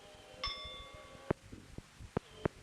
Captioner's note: bell Sound